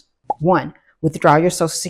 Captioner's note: bubble popping